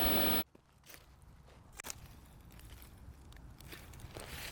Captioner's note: footsteps crunching